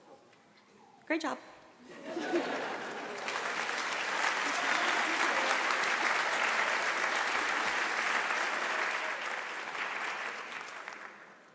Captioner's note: applause